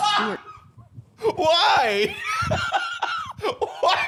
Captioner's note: laughs; laughing